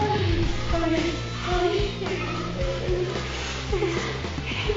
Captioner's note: whimpering